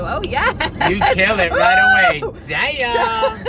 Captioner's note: laughs